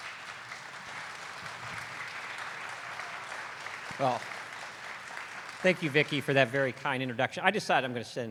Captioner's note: applause